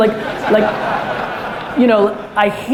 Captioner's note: audience laughter